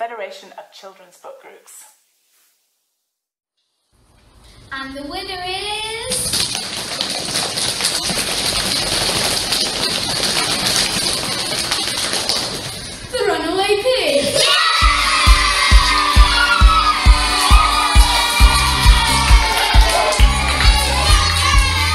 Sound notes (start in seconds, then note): 6.4 knee drumming and foot stamping …; 14.3 cheering and clapping!